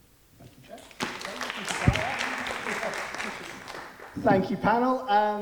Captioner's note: audience applauding